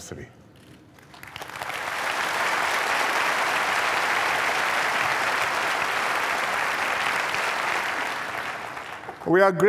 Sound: applause

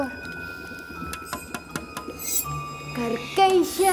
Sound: bells tinkling

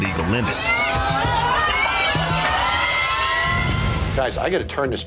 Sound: crowd cheering

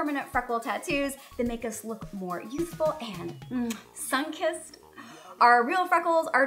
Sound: blows kiss

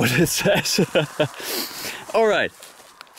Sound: laughs

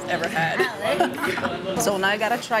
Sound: laughs

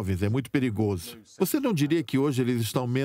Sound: voiceover

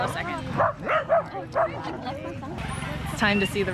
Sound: dog barking

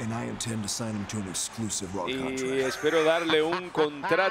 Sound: laugh

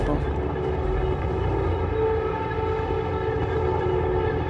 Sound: truck rumbling

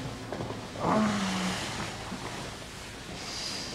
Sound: groans

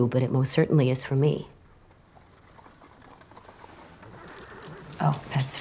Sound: carriage approaching and horses neighing

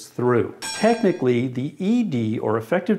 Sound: dinging

